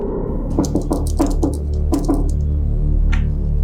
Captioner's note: door knocking